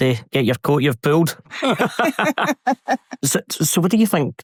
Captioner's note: laughter